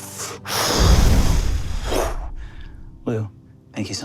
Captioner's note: mimics air whooshing